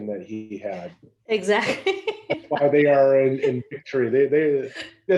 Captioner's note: laugh